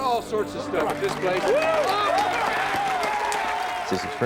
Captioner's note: crowd cheering